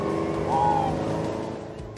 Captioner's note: cheers and applause